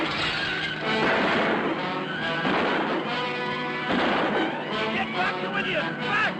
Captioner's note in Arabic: طلقات نارية